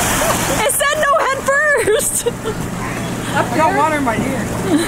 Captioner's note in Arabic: يضحك